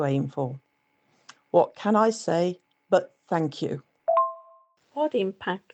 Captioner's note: voice message notification